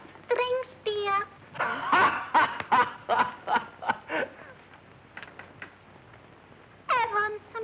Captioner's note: laughs